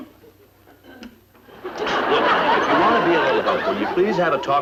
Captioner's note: audience laughing